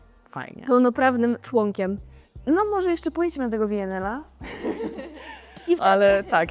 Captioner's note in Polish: śmiech